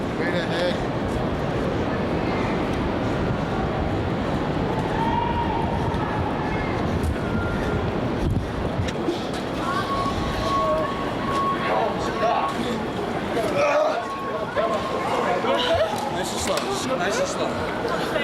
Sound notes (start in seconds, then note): 4.8 people yelling; 11.2 alarm beeping